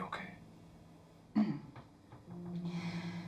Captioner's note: clears throat